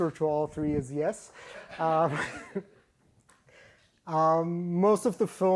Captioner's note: laughter